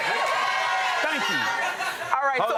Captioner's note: audience cheering